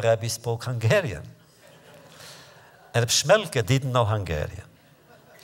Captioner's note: laughter